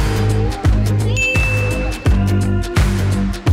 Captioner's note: dinging; upbeat music